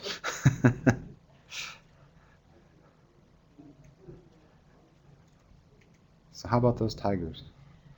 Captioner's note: laughter